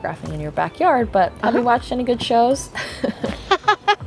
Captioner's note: laughs